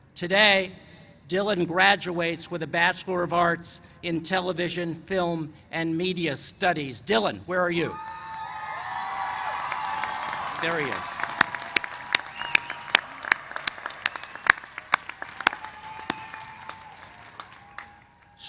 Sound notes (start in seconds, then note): 8.2 cheers and applause; 11.6 applause